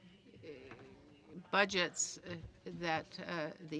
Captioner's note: speaking French